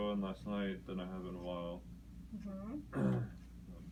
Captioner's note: clears throat